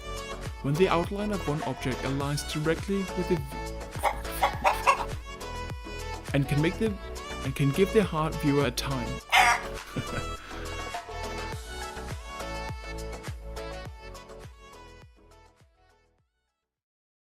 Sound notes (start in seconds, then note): 4.0 bawk bawk baw cluck; 9.2 baaawkk!